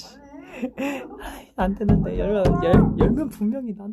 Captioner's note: murmur